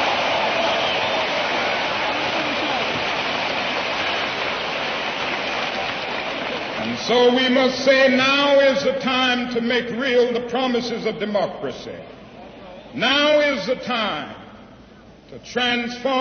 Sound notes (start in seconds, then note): 8.5 applause